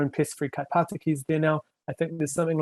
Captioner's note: speaking foreign language